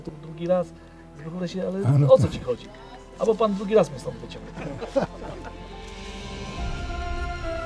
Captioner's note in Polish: śmiech